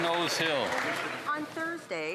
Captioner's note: some Applause